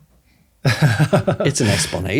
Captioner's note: laughs